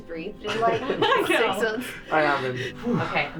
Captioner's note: laughs